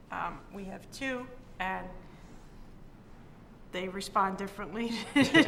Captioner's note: laughs